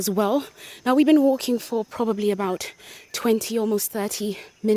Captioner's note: none